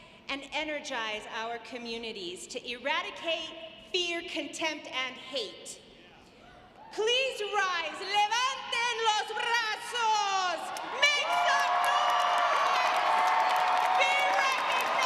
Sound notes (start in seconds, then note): 7.8 speaking in foreign language; 11.1 audience applauds